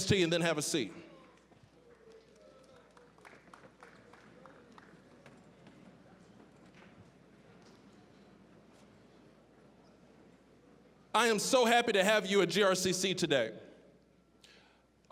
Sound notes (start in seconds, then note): 3.8 scattered applause; 5.1 general chatter